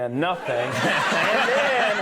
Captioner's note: audience laughing